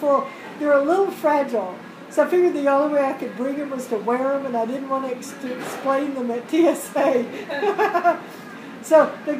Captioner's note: laugh